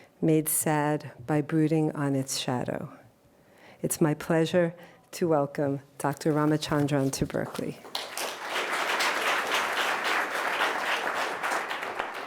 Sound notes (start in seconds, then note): 7.8 audience applauding